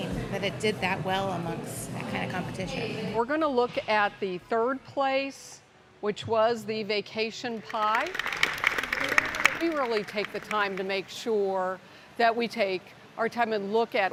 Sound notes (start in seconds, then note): 7.6 applause